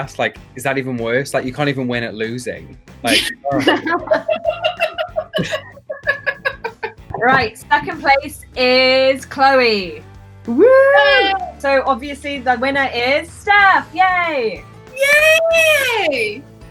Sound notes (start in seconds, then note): 3.0 group laughing